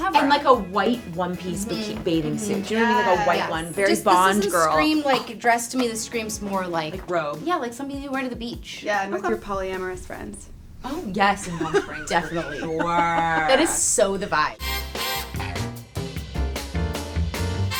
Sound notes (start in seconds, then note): 11.2 laughs; 14.8 fun music plays